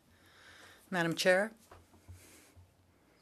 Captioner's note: speaking French